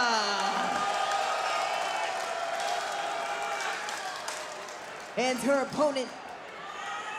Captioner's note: applause